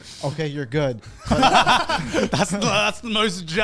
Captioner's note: all laugh